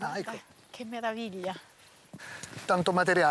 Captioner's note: speaking Italian